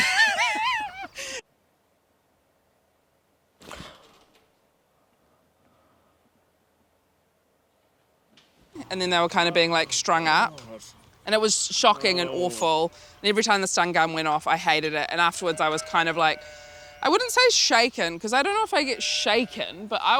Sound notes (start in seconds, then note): 0.0 laughs; 3.7 gasps